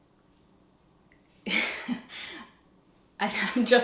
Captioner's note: giggles